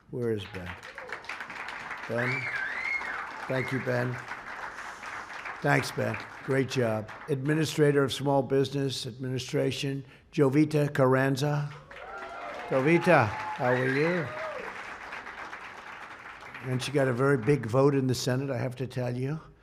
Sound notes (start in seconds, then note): 0.4 applause; 11.6 applause